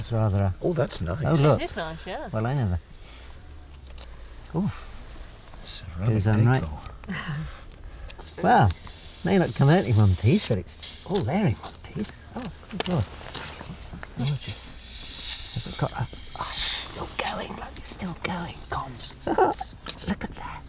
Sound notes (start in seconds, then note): 12.7 mutters; 19.2 laughs